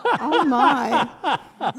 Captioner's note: laughter